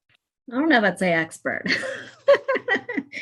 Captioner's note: laughs